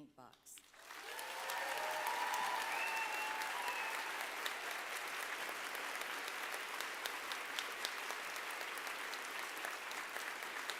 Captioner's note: applause